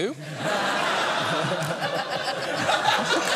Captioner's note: laughter